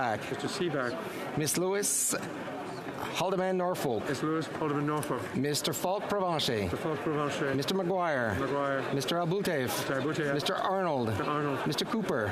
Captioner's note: calling of recorded vote